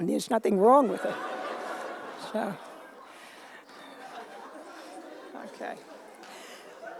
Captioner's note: laughter